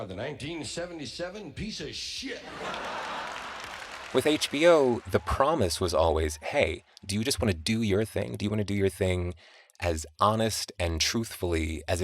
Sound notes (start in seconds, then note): 2.4 laughter, applause